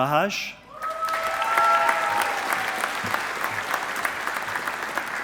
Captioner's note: audience applauding